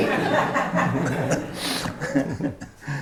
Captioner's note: laughter